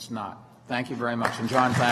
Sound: applause

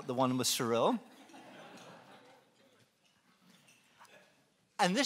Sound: laughing

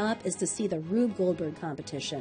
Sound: voiceover

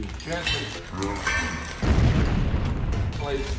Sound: explosion sounds

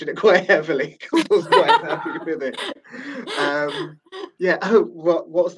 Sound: laughing

